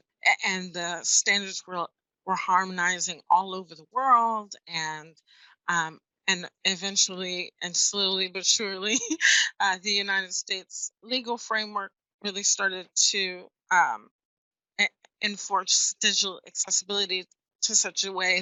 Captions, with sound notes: And the standards were harmonizing all over the world. And eventually and slowly was surely, (laughs) the United States legal framework really started to enforce digital accessibility to such a way